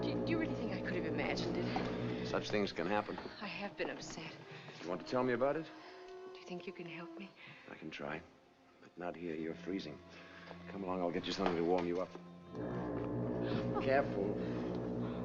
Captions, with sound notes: - Do you- Do you really think I could have imagined it? - Such things can happen. - I have been upset. - Do you want to tell me about it? - Do you think you can help me? - I can try. But not here. You're freezing. Come along. - I'll get you something to warm you up. - [Foghorn Blows] - Oh! - Careful.